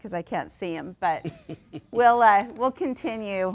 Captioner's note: laughs